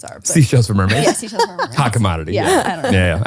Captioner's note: laughs